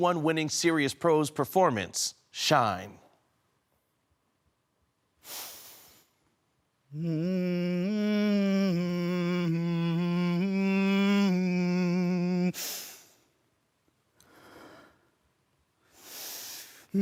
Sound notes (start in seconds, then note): 3.2 silence; 5.2 deep breath in; 6.8 humming; 14.2 deep breathing